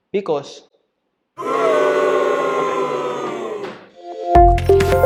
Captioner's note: booing crowd